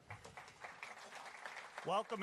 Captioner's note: applause